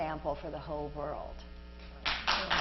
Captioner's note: Applause